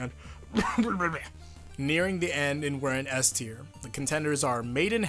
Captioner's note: cough